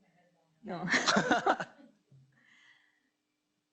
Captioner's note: laughs